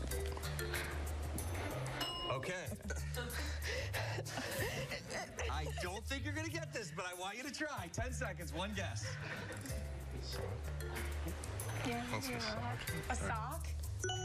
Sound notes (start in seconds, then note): 9.0 laughter